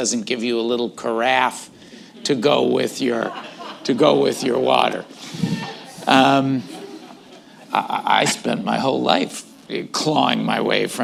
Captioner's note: laughter